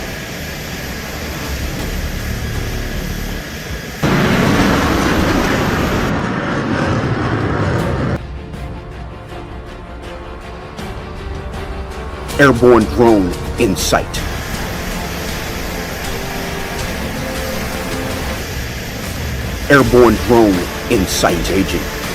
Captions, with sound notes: (dramatic music continues) (jet engine roars) (dramatic music continues) Airborne drone in sight. Airborne drone in sight ranger.